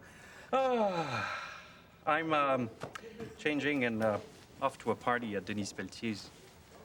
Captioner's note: both laugh; sighs